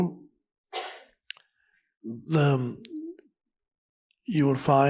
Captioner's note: person coughs